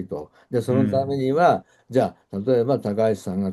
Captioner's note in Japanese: 咳払い